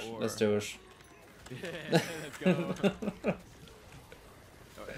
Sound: both Laugh

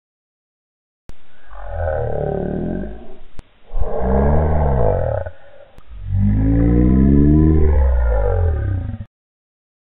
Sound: sound of groaning

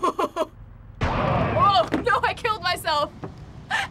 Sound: laughs; boom!; laughing

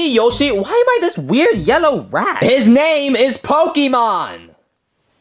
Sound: none

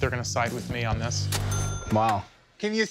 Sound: bell dings

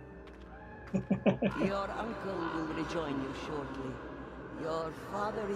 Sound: chuckles

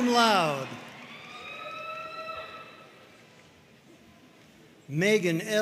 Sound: audience cheering and applauding

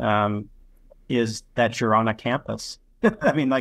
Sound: chuckles

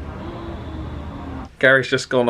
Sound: cabin neighbor gasps

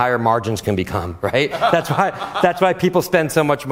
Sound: laughter

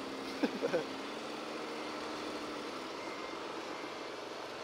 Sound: laughs

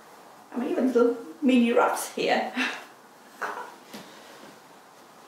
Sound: laughing

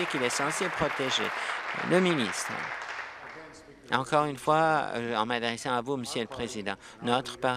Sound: applause

